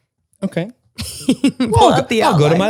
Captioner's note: laughs